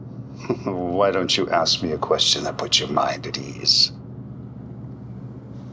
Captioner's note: snickering